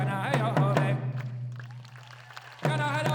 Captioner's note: audience applauding; lead dancer chanting